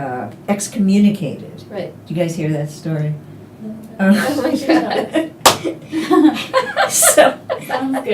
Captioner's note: laughter